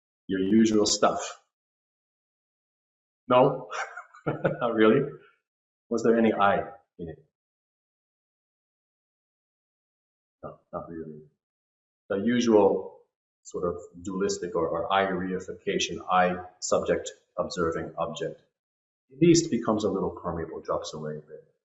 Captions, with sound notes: Your usual stuff? No? (laughter) not really? Was there any “I” in it? No, not really. The usual sort of dualistic or “I” reification “I” subject observing object. These too becomes a little permeable and drops away.